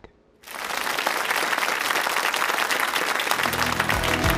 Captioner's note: applause